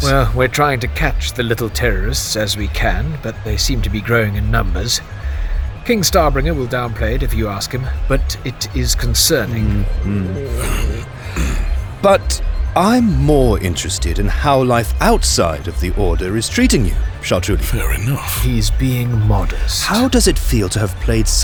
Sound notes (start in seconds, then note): 9.5 Sounds of stomach growling, Chartrulean in discomfort